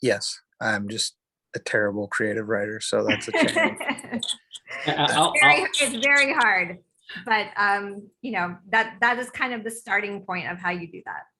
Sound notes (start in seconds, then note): 3.0 laughing